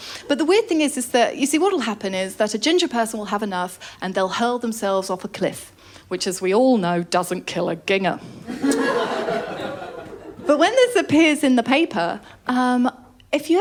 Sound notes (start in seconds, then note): 8.4 laughter